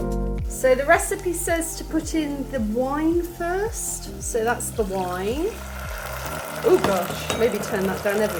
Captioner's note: loud sizzling